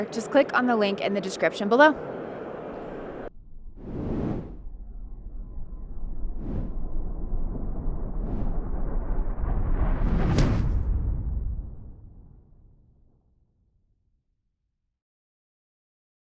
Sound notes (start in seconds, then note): 3.9 air whooshing